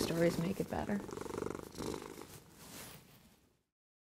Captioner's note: purring